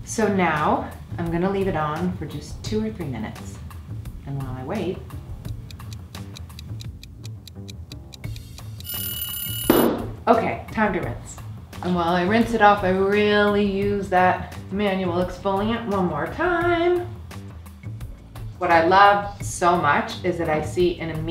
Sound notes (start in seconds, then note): 5.4 ticking; 8.8 alarm ring